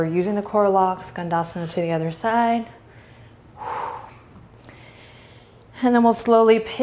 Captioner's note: breathing